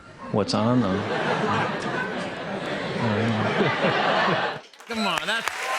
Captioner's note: laughter